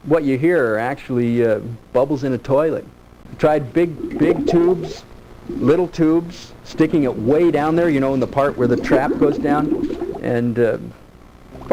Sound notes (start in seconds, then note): 3.4 bubbles